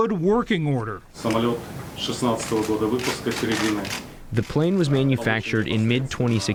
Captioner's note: through translator